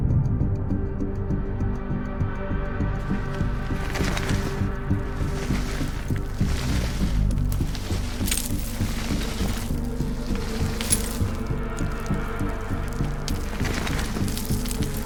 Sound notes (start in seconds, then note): 0.1 tense music continues; 4.9 bodies scuffling